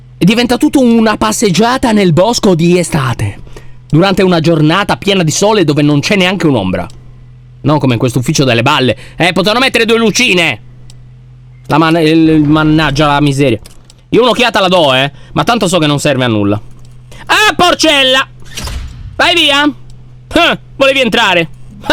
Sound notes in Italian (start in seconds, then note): 11.5 borbotta